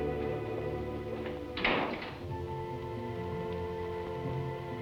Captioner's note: door clicking